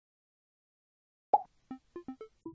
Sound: high pitched pop

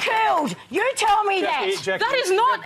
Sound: applause

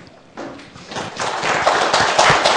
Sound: applause

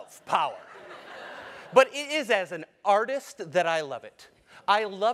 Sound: laugh

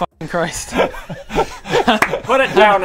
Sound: laughs in poor business sense

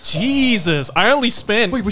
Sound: exhales

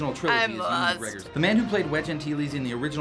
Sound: voice-over

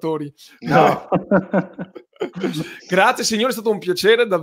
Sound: laughs

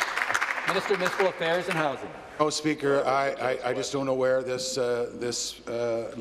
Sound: applause

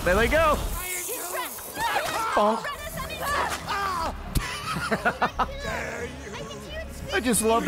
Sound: laughs; laughs

